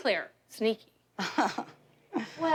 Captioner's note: awkward chuckles